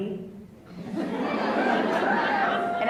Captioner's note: laughs